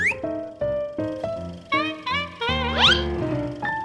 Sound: trumpeting laugh

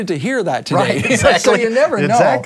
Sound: laughs

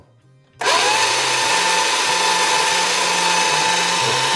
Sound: revving

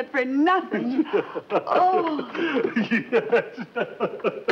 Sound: professor laughs

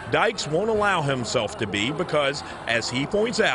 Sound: crowd noise

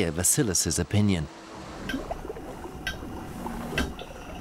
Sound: seal clicking on screen

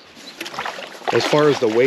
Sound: splashing

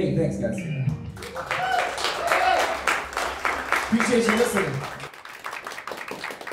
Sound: crowd cheers

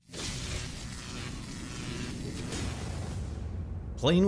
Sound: electricity crackling

